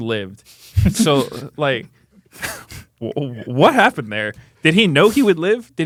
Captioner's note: laughs